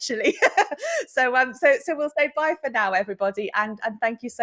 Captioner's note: chuckles